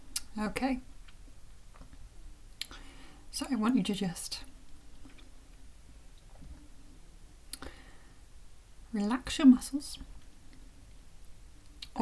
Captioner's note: sigh